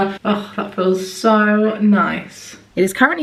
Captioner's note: none